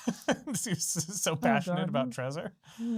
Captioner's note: laughs